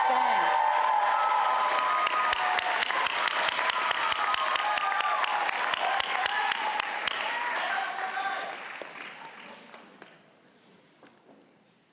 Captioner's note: audience applauding